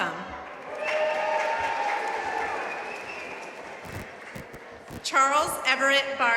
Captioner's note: audience cheering and applauding